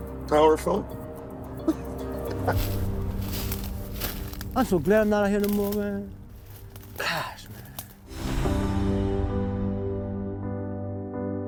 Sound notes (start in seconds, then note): 2.2 laughs; 2.3 leaves crunching